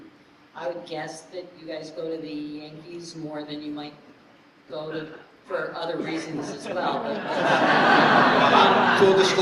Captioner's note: laughter